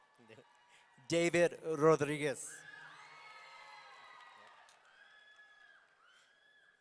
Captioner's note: audience cheering